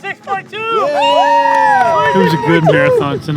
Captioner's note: group cheers